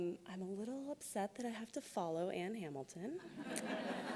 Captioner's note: laughs